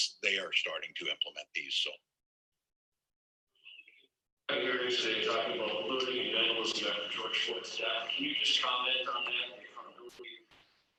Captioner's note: away from the mic